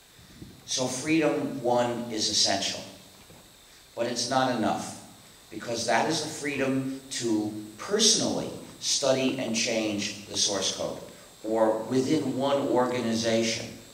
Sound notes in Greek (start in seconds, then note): none